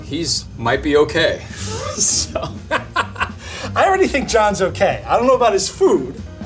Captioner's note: laughing